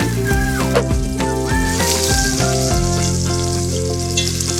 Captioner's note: meat sizzling